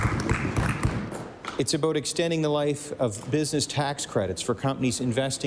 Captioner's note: applause